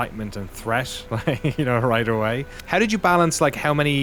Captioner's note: laughs